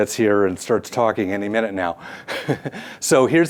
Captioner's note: chuckles